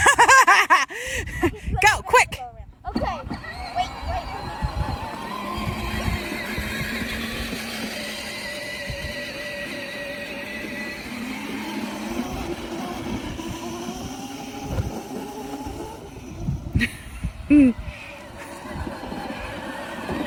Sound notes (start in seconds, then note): 0.0 laughs; 5.1 go kart revs; 17.4 laughs